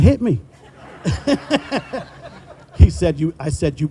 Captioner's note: all laughing